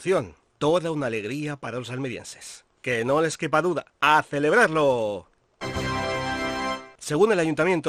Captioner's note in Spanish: Sonido tadáaaa